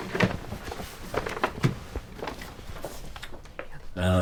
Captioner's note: papers rustling